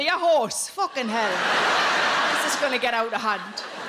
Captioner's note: audience laughing